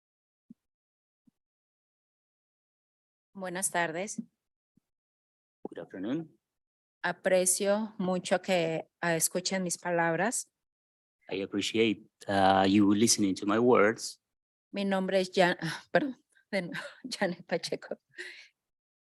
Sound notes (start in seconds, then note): 3.9 speaking in Spanish; 7.5 speaking in Spanish; 15.2 speaking in Spanish